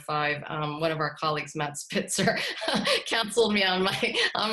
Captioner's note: laughter